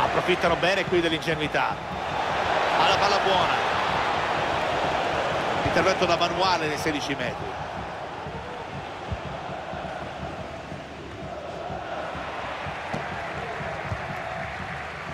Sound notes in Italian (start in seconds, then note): 9.4 Applauso